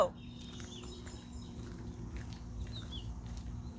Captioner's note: birds chirping